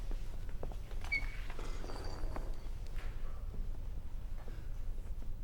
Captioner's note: noise of setting stuff down